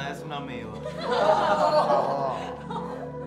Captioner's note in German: Gelächter